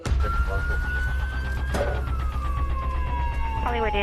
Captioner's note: siren wailing